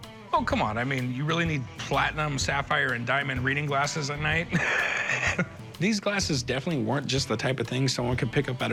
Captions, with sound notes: Oh, come on, I mean, you really need platinum, sapphire, and diamond reading glasses at night? [laughs] These glasses definitely weren't just the type of thing someone